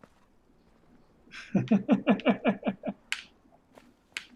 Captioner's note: chuckles